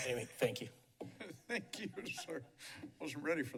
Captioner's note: chuckles